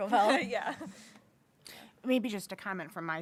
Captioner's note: chuckles